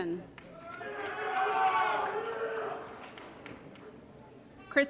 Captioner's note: applause & Cheering